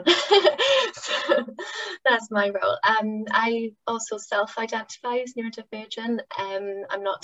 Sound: laughter

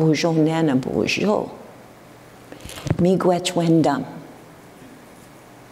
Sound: foreign speaking

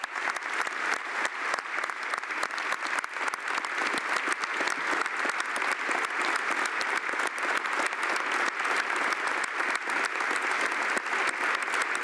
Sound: applause

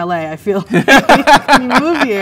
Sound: man laughs

